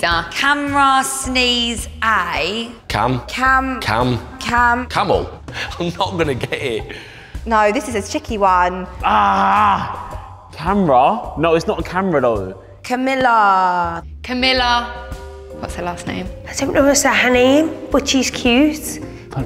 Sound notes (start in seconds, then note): 5.3 laughs